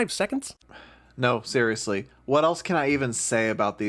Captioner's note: sigh